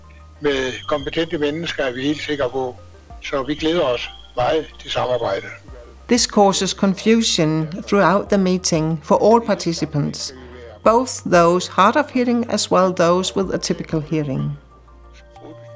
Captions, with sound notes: to expand the range of competent people. [in Danish] So we are looking forward to the cooperation. This causes confusion throughout the meeting for all participants both those hard of hearing as well as those with a typical hearing.